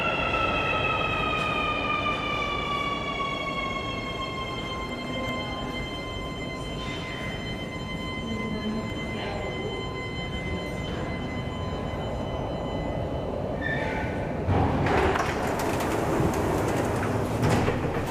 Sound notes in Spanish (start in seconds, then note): 2.4 sonido de llegada del tren automático